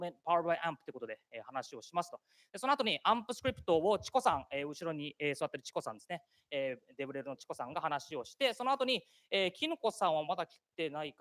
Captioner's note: speaking japanese